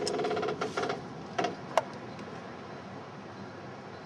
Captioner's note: creaking